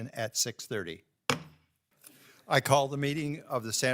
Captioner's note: gavel taps